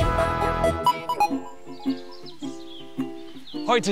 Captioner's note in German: Vogelzwitschern